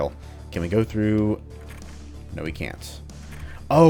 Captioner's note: jiggles doorknob